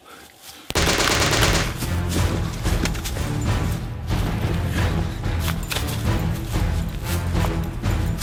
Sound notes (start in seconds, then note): 0.7 gunfire rattling; 3.4 tense orchestral music